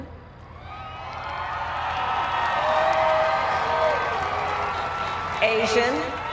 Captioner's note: cheers